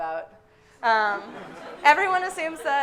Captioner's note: audience laughing